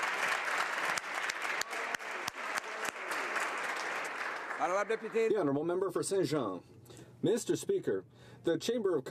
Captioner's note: applause